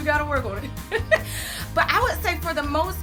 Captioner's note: laughs